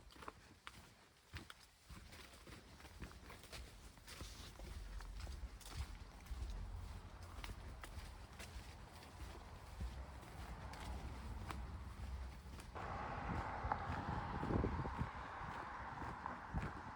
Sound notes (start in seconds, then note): 1.1 footsteps; 13.6 traffic noise